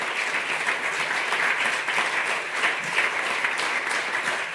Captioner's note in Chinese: 掌聲